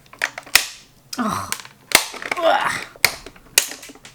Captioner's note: various grunting noises